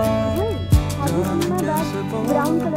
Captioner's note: muffled girl voice